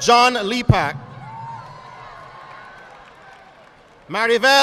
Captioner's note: audience applauding